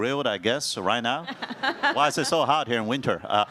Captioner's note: laughs